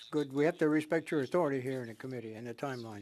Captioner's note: speaking French